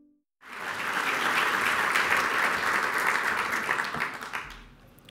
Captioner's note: applause